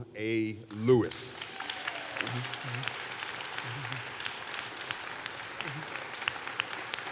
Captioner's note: applause